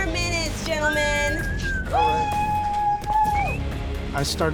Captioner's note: judges cheer